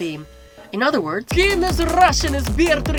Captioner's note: in Russian accent